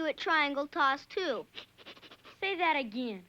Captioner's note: snickering